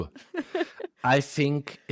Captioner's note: laughs